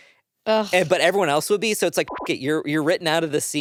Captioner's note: beep